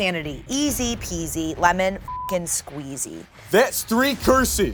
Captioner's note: beep